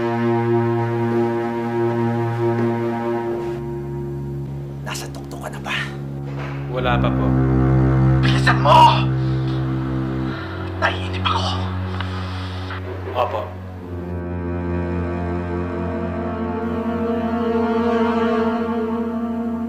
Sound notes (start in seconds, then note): 6.6 blast; 14.0 tense music playing